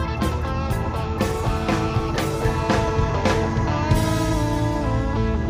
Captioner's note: truck engine revs